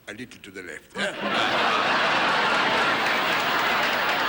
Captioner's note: audience laughing